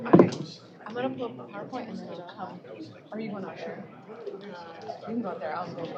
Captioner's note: indistinct chatter